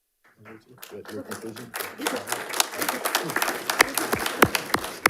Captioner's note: audience applauding